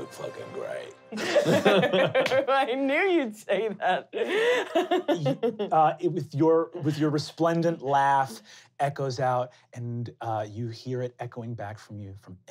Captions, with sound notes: You look fucking great. (laughing) - I knew you'd say that! (laughing) - With your resplendent laugh, echoes out and you hear it echoing back from you